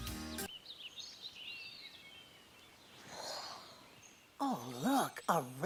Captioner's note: birds chirping